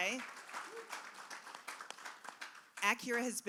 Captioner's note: cheers and applause